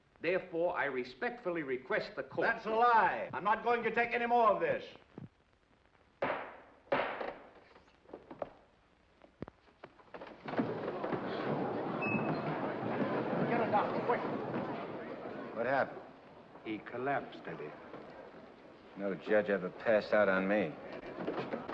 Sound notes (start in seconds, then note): 6.8 gavel bangs; 10.4 thump